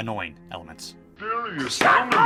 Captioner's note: speaking distorted